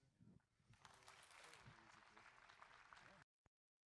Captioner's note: applause